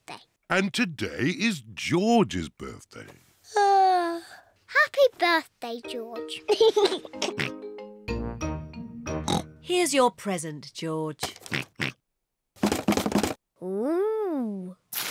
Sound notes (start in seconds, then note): 3.2 yawns; 6.4 laughs and oinks; 9.2 oinks; 11.5 oinks; 12.4 rattles